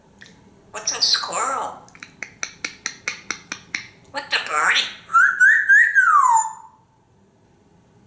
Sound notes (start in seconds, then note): 4.2 birdie sounds